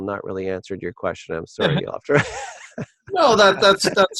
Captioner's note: laughs